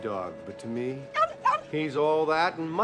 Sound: Odie barking

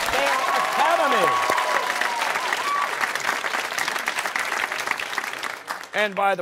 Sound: cheers and applause

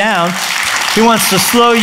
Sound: applause

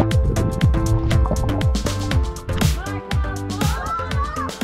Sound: water bubbling

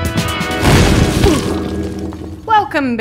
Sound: upbeat music; ceiling dropping

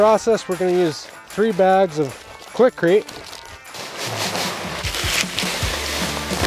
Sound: mix pouring

